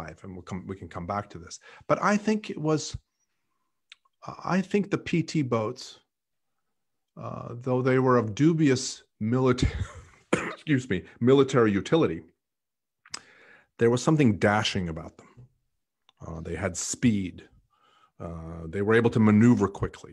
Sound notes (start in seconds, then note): 10.2 coughs